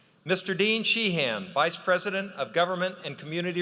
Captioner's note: none